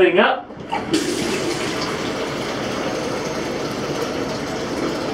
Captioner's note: water roars